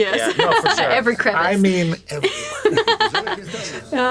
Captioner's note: laughs